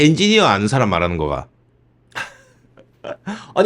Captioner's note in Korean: 웃음